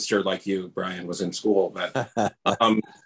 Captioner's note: laughs